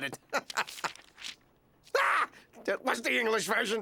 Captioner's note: screams